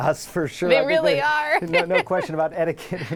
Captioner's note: laughing